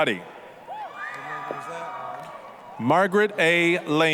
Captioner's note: applause, cheering